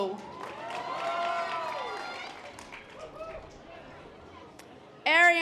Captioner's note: audience applause